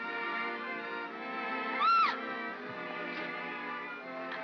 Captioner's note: upbeat sentimental music; yelps; upbeat sentimental music